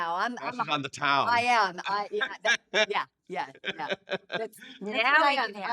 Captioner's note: laughing